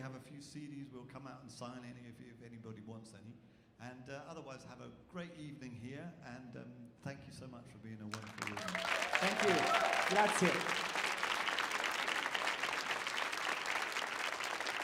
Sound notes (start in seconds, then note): 8.1 people cheering; 10.1 speaking in foreign language